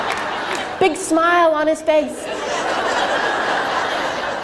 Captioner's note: crowd laughs